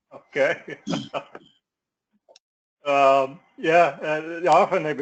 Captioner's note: laugh